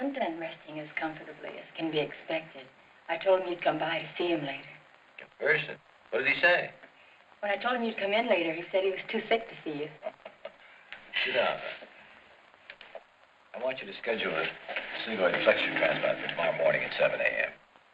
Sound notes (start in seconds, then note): 9.8 laughs